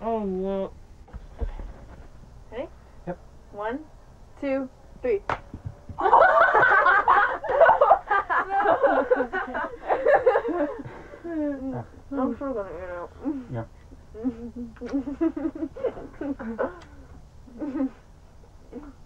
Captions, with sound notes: - Oh, well. - Okay. Ready? - Yep. - 1, 2, 3. (everyone laughs) I'm still gonna eat it. - Yep. (giggling)